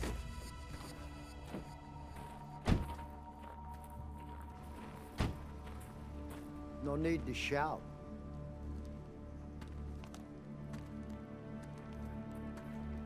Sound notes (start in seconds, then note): 2.6 doors closing; 9.4 tense suspenseful music